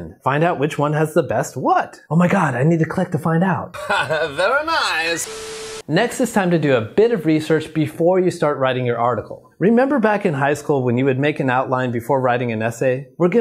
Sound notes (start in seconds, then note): 3.7 chuckles